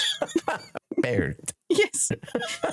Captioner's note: laughing